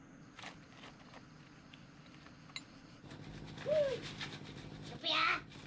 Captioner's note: wind blows